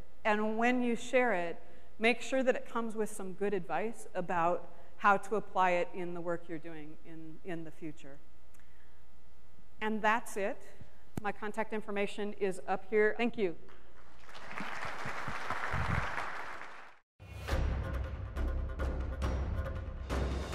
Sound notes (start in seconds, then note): 14.1 audience applause; 17.4 upbeat music